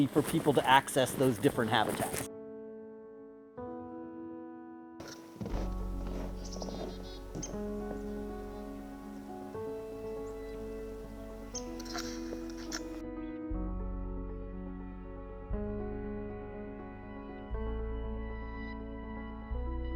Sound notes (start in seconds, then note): 2.7 birds chirp; 2.7 gentle pleasant music